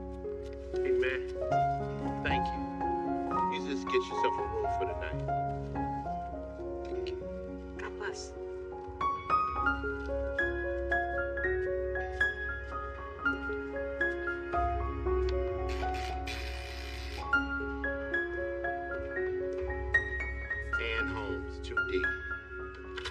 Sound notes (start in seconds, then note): 15.7 door buzzing